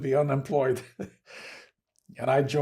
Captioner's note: laughing